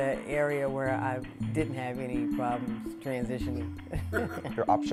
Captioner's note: laughs